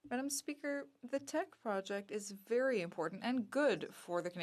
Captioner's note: speaking French